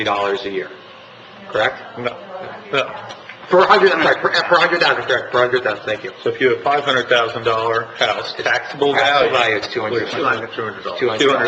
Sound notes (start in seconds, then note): 2.3 woman mumbling